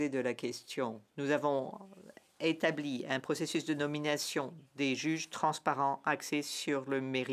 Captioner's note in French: voix de l'interprète